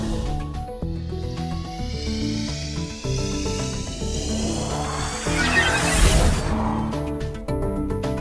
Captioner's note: whirring portal sounds